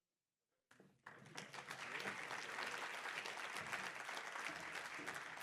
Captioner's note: applause